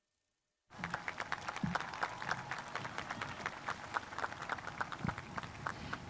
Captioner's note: audience cheering and applauding